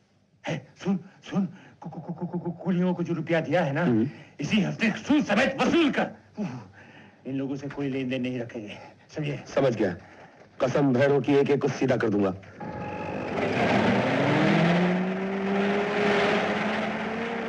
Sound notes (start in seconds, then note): 12.6 Jeep Approaching